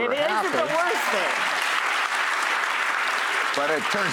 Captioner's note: audience cheers